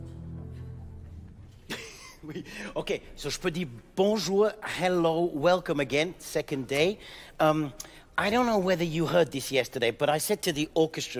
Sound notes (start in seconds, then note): 1.6 laughs softly; 3.0 speaking in French